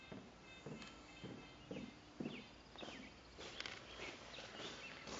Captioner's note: footsteps on stairs